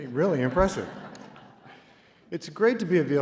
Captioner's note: laughter